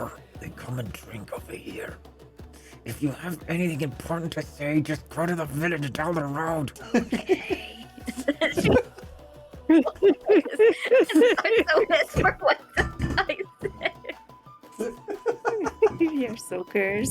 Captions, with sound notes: They come and drink over here. If you have anything important to say just go to the village down the road. Ooookaaay. [LAUGHTER] [LAUGHTER] I so missed for what the guy said. [LAUGHTER] We're so cursed.